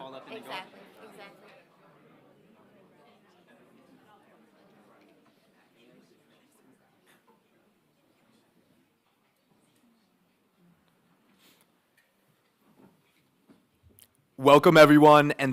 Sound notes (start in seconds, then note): 1.8 audience speaking indistinctly